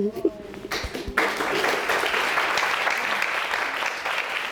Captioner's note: audience applauding